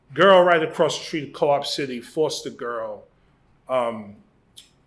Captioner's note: none